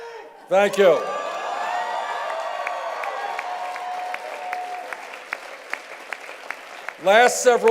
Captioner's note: cheers and applause